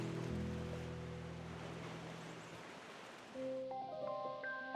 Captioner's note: gentle waves